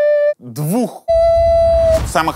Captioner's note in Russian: громко изображает сирену